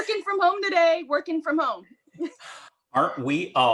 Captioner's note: chuckling